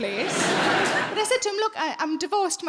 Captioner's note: audience laughing